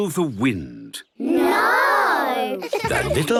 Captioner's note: laughter